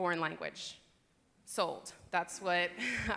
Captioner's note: laughter